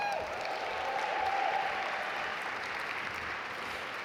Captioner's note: audience applaud